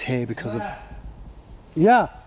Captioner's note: shouting